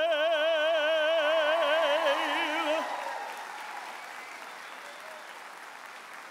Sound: audience applauds and cheers

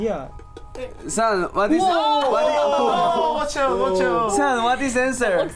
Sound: speaking in Korean

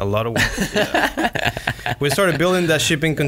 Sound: laughs

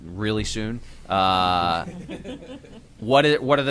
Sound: laughter

